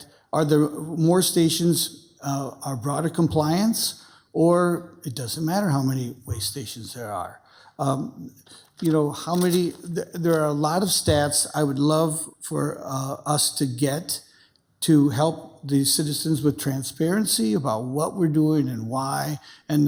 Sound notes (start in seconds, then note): none